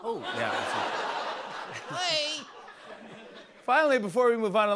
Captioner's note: laughter